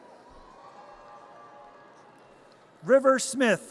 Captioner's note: audience cheers